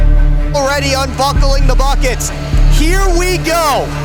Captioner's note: broadcast commentary